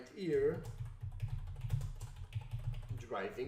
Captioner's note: typing clicks